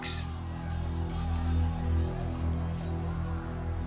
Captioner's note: clamouring